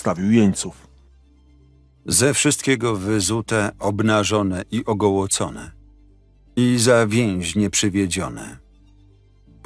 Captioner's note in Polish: Lektor